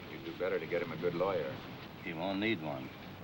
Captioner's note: none